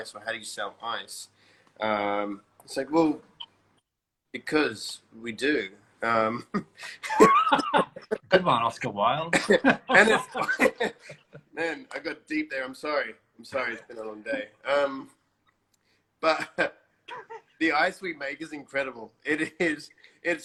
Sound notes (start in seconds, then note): 7.8 laughs